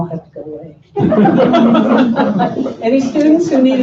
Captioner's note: laughter